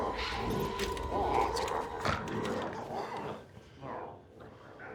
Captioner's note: glowzies growling